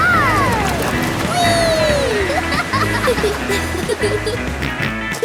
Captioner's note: laughing; snorts and giggles